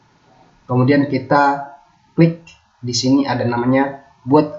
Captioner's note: click